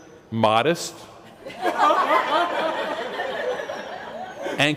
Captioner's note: laughter